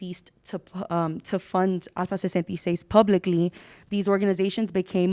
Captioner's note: speaking Spanish